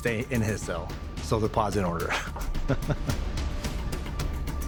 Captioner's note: chuckling